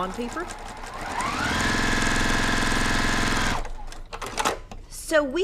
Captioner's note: machine sewing